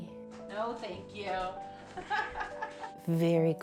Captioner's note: laughs